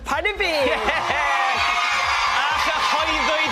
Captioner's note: cheering